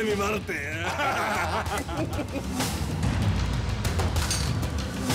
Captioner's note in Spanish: Risas